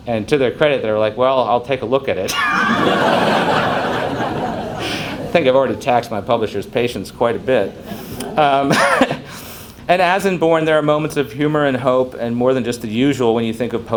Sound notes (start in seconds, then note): 2.2 crowd laughs